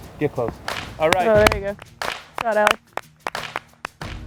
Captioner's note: applause